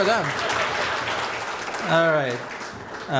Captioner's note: applause